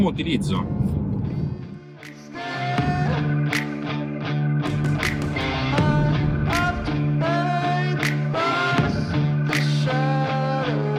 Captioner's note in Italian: Applauso